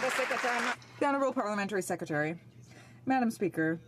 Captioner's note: some Applause